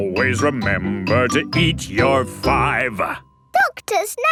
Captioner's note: none